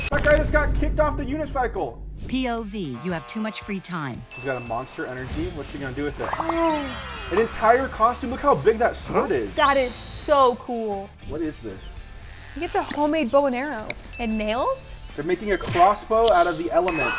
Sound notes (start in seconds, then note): 9.5 whistle blowing; 11.8 string squeaking